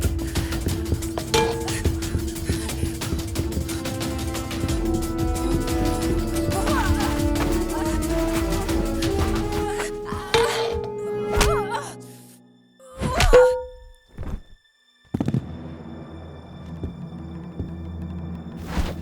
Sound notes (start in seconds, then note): 0.0 Hope grunting; 0.0 elbow thudding; 0.2 dramatic music; 6.8 Hope groaning; 10.5 Hope groaning; 13.3 pan thudding